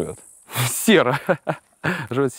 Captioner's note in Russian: со смехом